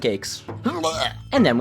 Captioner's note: hurls